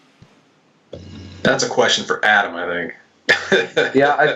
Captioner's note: laughs